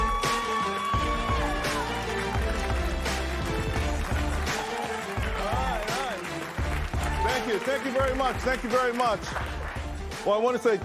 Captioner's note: applause